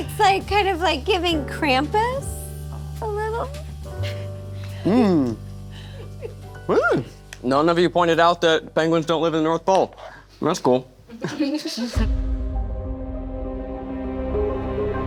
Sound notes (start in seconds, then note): 11.2 all laughing; 12.0 tense music